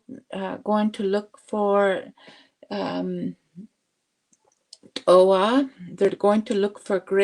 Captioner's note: speaking Indigenous language